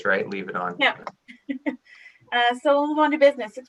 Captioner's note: chuckles